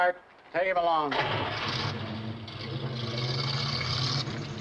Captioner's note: engine revs